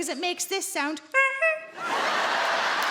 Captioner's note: clown horn sound; audience laughs and claps